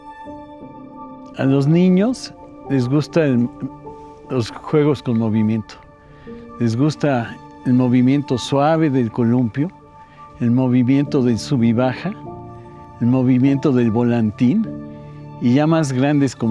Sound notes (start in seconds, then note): 1.7 continues in Spanish